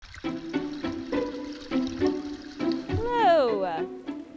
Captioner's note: babbling brook